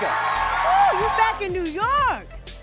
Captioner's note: audience applauds